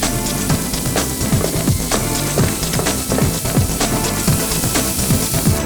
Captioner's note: laser cutting